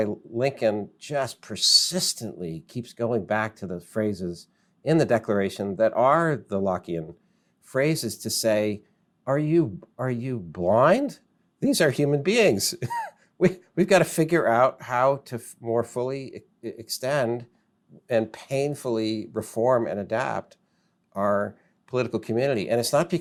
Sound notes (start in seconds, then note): 12.8 laughs